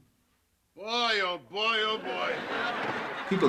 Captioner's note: audience laughs